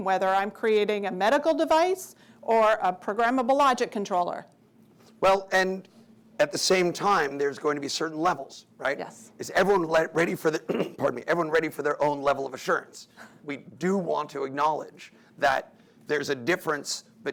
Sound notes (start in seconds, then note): 10.6 clears throat